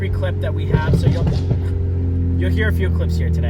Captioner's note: exhaust popping